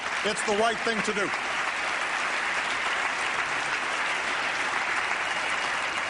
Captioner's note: applause